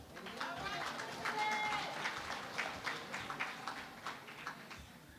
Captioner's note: applause